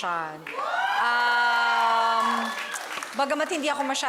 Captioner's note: crowd cheers, applauds